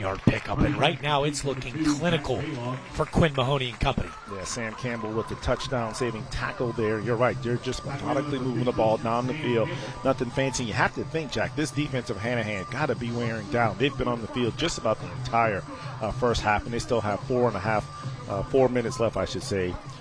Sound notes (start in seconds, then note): 3.4 applause